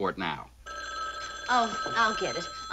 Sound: phone ringing

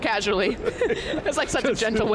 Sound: laughs

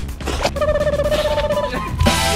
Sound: blow; laughs

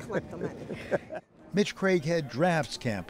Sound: laughter

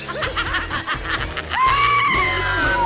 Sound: Adam and Little Willy laughing; Adrian screams; upbeat music

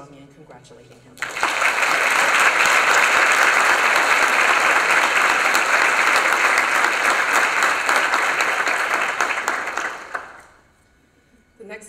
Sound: applause

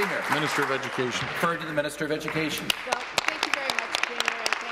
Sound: applause

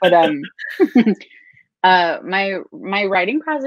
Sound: laughing

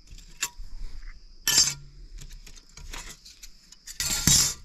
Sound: metal clanking

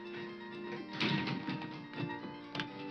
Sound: door clicking; upbeat music continues

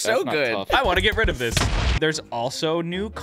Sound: explosion

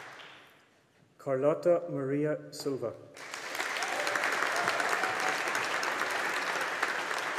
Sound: audience applauding

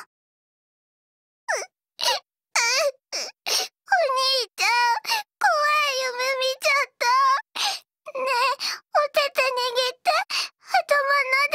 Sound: sob

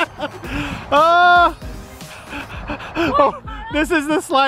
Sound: laughs; catching breath

